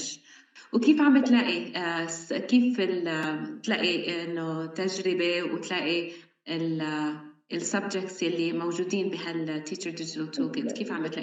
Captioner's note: speaking arabic